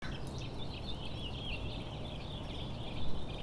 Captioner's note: birds chirping